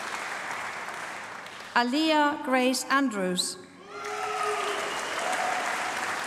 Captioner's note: applause